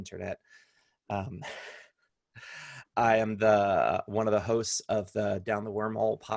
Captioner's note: laughter